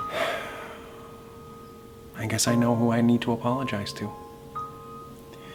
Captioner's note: sighs